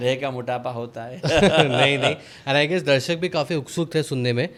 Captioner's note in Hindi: हंसी